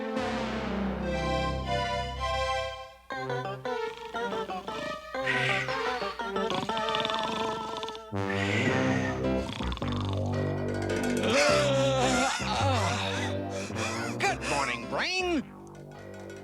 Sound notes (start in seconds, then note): 6.2 man snoring; 11.2 yawning